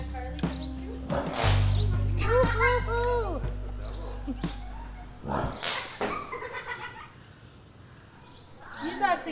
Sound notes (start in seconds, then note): 1.6 horse sneezes; 5.3 horse sneezes; 5.9 granddaughter laughs